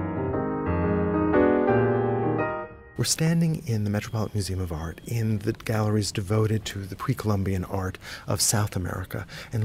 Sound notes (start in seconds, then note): 3.1 voiceover